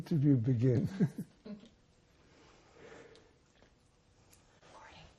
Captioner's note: laughing